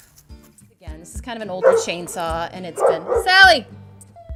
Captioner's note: dogs barking